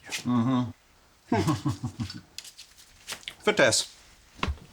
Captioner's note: Nazis chuckling